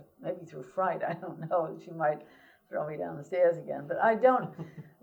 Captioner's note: laughs